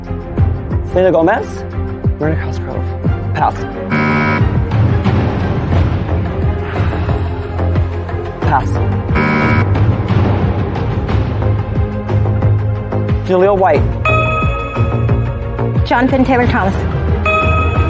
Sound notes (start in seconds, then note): 9.1 buzzer sounds